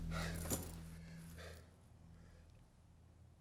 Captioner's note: Lance sighs